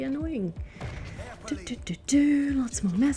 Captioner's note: more thinking noises